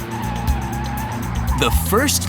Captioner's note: screeching